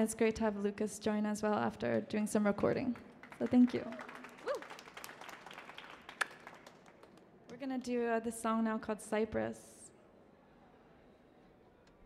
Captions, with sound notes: It is great to have Lucas join as well after doing some recording, so thank you. (applause) Whoo! (applause) We're gonna do the song now, called "Cypress."